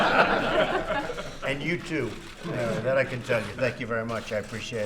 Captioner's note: laughter